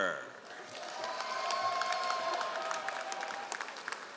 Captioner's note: all applauding